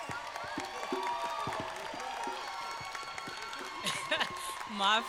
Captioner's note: applause